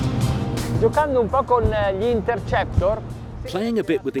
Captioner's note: speaking in foreign language